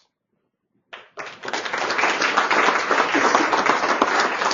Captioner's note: applause